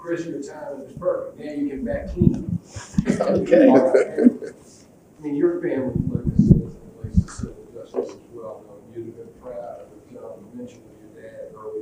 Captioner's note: laughs